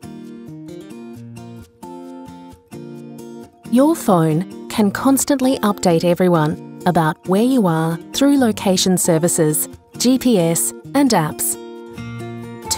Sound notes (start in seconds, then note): 3.7 voiceover